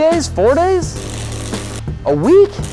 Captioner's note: electrical sound